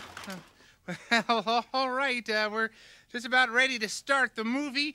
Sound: Bean crashing; laughs

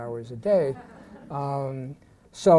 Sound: laughter

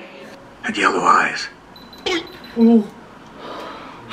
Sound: the camera beeps due to low battery

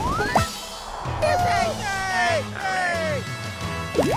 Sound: cheering

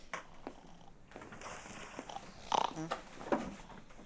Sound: Squib snoring

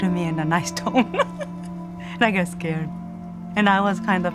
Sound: laughs

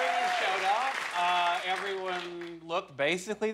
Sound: cheers and applause

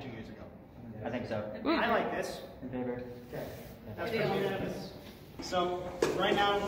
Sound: general agreement

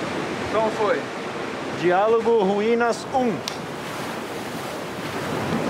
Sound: speaking in foreign language

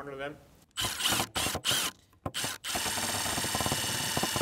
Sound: drill whirs

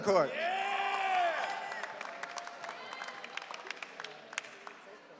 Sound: audience cheering

